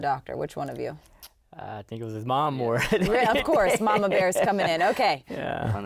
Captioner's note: laughs